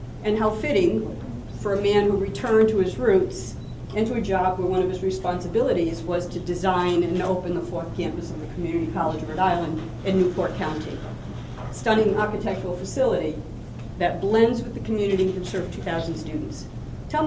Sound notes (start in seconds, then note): none